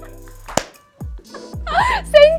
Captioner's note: laughs; laughing at self